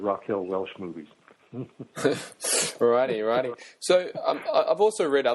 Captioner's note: chuckles